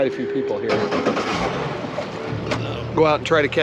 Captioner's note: starts boat engine